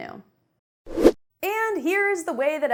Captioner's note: air whooshing